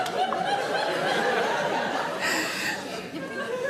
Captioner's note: audience laughs